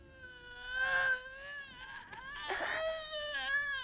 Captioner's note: Hundra groaning